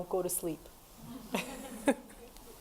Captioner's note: audience laughs